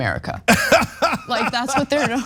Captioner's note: laugh